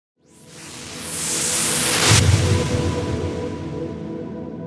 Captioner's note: whooshing